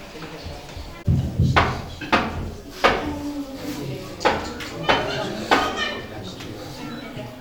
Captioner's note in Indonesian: ketuk pintu